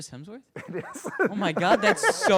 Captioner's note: laughs